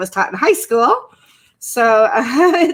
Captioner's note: laughs